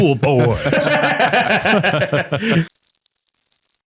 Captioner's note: all laugh